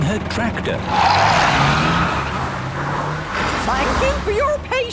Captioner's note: tires screeching